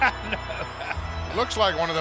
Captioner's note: chuckles